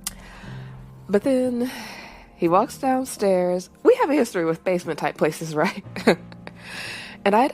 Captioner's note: chuckles